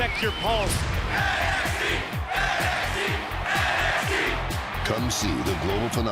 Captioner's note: fans chanting